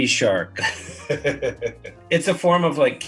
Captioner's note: laughs